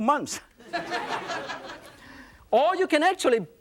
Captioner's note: laughter